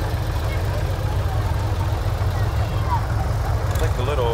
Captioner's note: revving continues